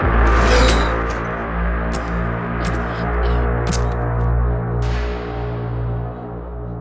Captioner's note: intense music; wet stabbing